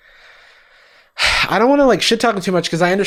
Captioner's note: sighs